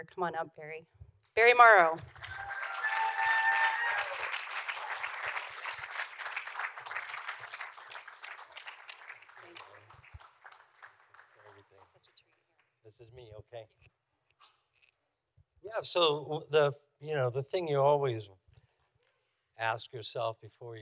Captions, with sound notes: Come on up. Barry. Barry Morrow. (audience applauding) Thank you. Such a treat. - This is me, okay. Yeah. So the thing you always ask yourself before you decide